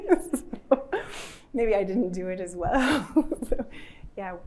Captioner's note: laughs; laughs